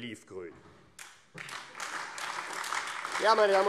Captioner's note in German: Beifall AfD